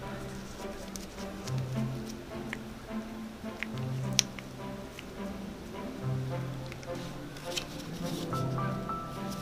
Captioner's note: squishy noises